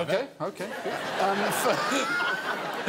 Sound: laughs

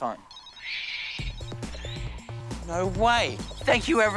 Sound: phone rings

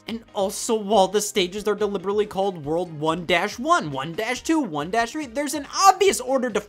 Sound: none

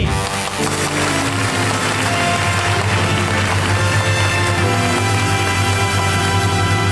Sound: audience applauds; bright music

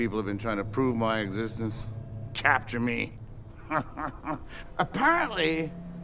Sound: laughs

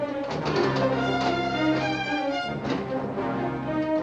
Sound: door clinking

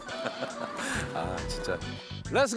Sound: laughing

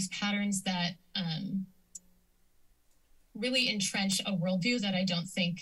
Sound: clicks tongue

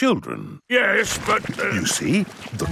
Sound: stutters

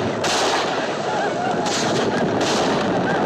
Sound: whooping

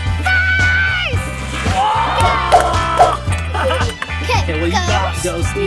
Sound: screaming; cups whooshing

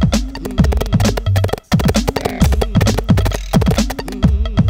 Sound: galloping

